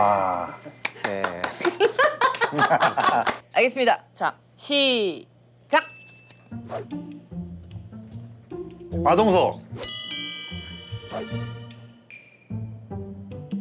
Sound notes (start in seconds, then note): 0.8 starting with unenthusiastic applause